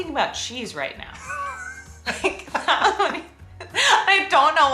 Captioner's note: laughs